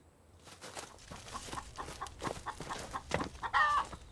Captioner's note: chicken clucking